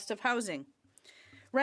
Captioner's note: speaking French